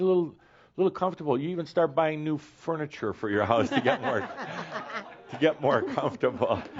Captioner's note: laughter